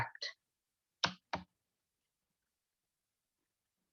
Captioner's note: keyboard sound